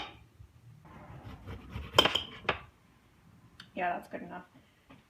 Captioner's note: knife slicing onion